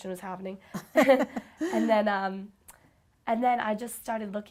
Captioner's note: both chuckle